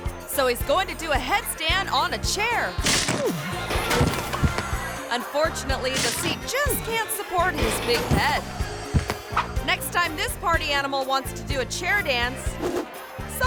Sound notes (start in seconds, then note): 2.8 person grunts; 2.8 body slams